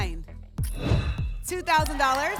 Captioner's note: whoosh